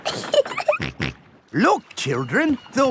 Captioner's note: giggling; snorts